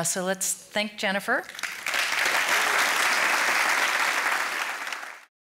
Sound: audience applauds

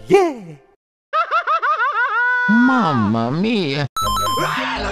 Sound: laughta

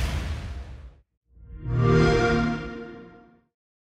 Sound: Xbox Sound

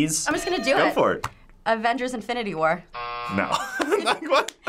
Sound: buzzer; laughs

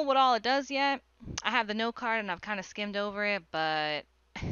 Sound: chuckle

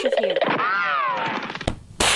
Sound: poof

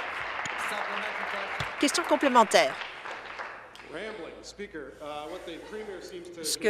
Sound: applause

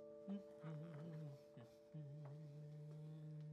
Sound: Dave humming

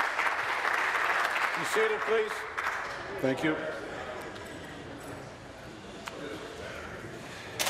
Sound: applause

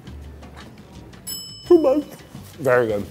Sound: bell dings

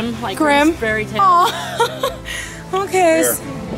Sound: laughter

